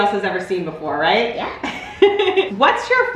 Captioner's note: laughs